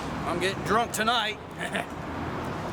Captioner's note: chuckles